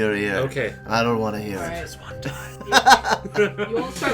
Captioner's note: whispering loudly; laughs loudly